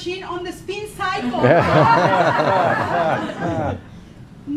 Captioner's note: laughing